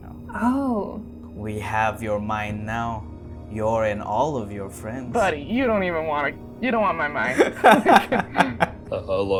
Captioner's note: laughter